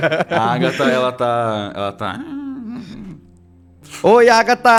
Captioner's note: murmurs